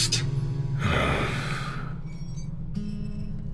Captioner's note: heavy sigh